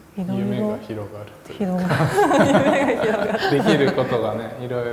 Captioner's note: laugh